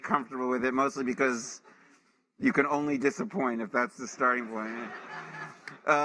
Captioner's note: laughter